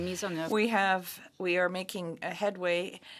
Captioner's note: speaking French